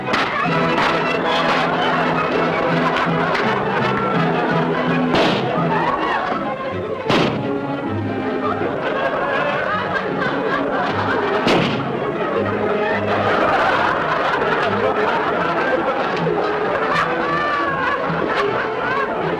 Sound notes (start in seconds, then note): 0.0 banging; 5.1 gunshot; 7.1 gunshot; 11.4 gunshot; 13.4 audience laughter